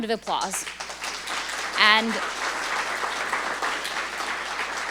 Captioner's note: audience applauding